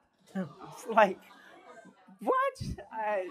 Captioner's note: groaning